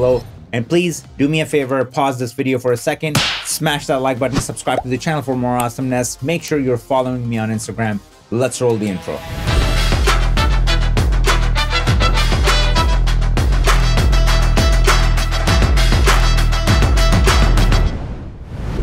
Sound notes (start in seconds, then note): 3.1 fist punching; 9.6 upbeat music